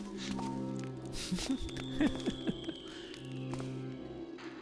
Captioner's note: laughs